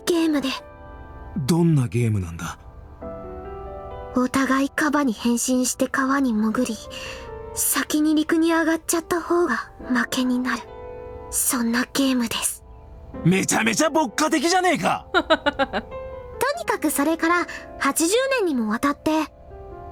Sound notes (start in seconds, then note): 15.1 chuckles